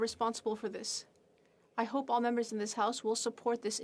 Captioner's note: speaking french